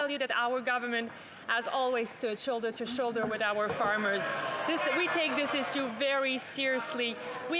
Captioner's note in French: voix de l'interprète